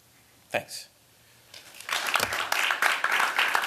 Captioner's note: applause